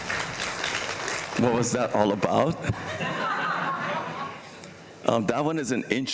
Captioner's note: applause; laughter